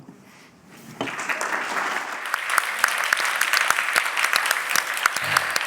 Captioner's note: applause